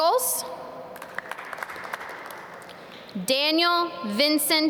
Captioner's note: audience clap